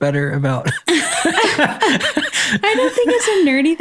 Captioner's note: laughs